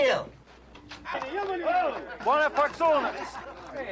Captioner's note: men laughing, chattering